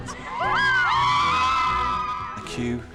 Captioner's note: yelling